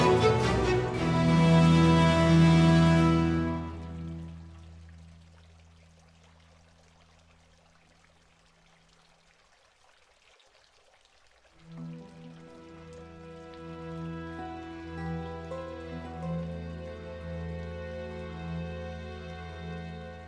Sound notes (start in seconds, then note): 4.3 fountain noises